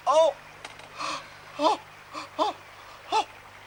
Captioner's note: groaning